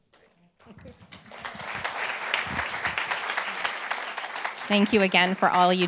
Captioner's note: group applauds